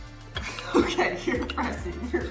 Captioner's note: laughing